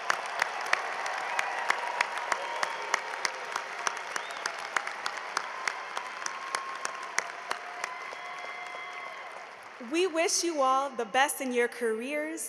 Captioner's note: applause